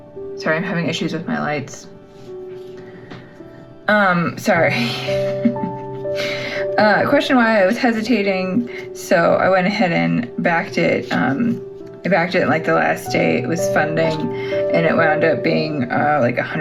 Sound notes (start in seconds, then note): 4.8 laugh